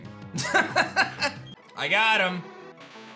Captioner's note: laughs